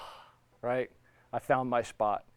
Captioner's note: sighing